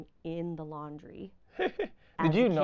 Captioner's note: laughing